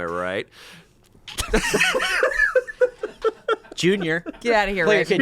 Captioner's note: group laughs